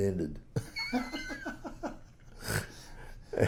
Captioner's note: laughs